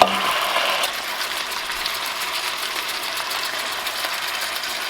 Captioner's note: metal tapping; meat sizzling